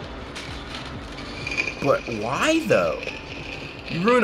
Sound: cap sizzling; bottle squealing

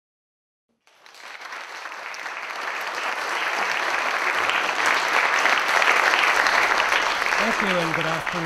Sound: applause

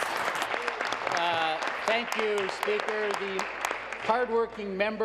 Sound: applause

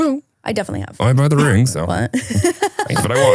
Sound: laughs

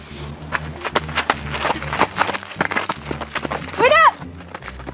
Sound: gravel crunching

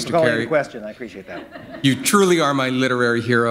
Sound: laughter

